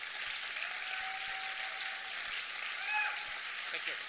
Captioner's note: continuing applause